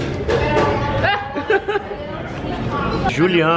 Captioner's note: laughter